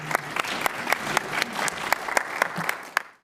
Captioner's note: applause